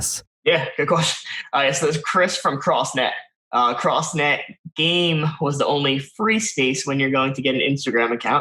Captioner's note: laughs